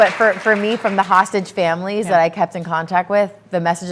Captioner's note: applause